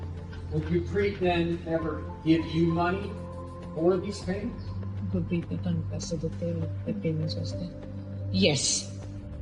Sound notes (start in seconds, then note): 4.8 foreign language spoken